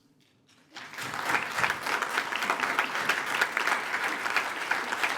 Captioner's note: attendees applaud